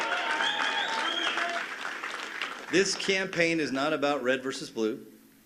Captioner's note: cheers and applause